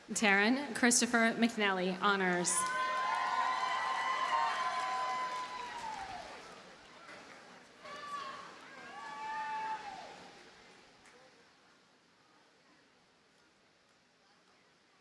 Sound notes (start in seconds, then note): 2.5 audience cheers and applauds